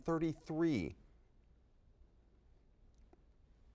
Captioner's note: silence